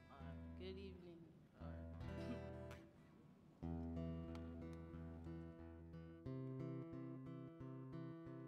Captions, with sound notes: - Good evening (chuckles). (acoustic guitar music)